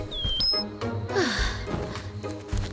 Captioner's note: exhales